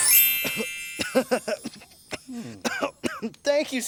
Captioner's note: bell ringing; coughing